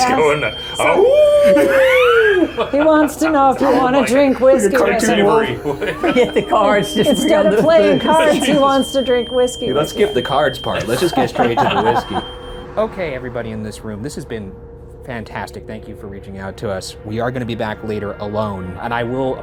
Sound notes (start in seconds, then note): 0.1 imitates wolf; 1.9 Ryan laughs; 10.6 all laughs; 12.0 EMV beeping